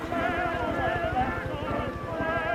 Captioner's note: helicopter in distance